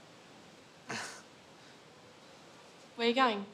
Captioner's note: kris chuckles